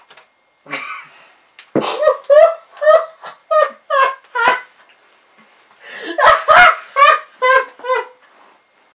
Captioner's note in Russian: звуки смеха